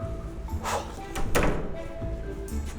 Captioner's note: door closing